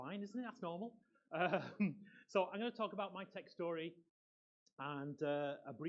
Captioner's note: laughs